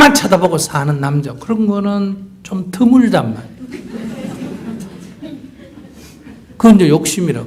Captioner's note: audience Laughter